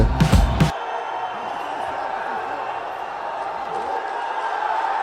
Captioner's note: crowd cheering